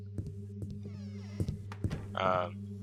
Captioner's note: door creaks, shuts